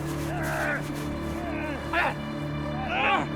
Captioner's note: yelling